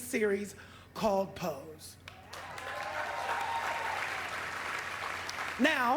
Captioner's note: applause